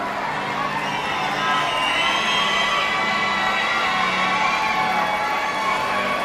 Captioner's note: audience shouting and cheering